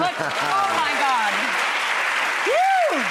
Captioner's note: applause